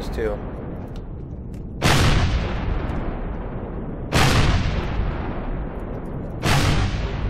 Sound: rockets continue

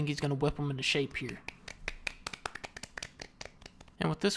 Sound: claps

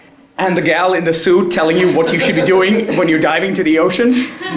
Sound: laugh

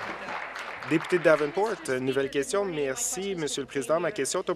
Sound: applause

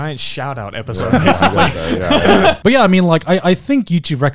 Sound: both chuckling

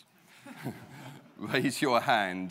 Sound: laughs

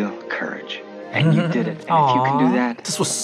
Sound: laughs

